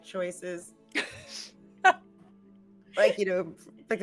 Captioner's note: laughing